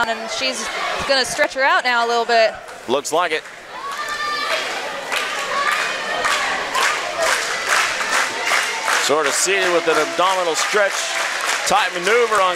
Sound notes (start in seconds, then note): 3.8 audience clapping